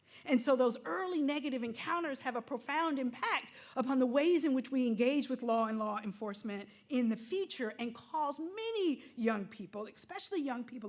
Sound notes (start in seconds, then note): none